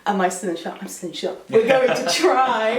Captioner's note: laughs